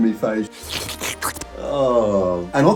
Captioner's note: slurping